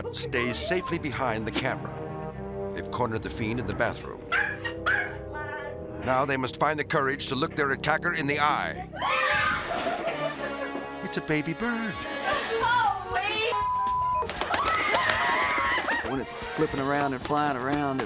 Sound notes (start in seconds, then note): 4.3 dog barking; 8.9 screaming; 9.1 dramatic music; 13.4 beep; 14.2 wings flapping; 14.4 screaming